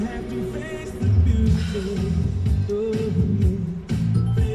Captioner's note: radio playing